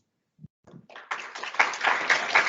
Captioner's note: sound of Applause